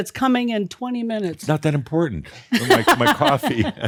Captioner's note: laughs